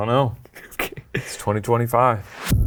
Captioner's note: chuckles